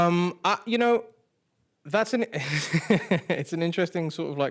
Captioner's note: chuckles